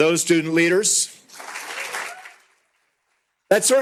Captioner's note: applause